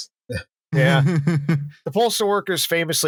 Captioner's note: chuckles